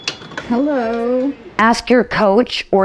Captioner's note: bell ring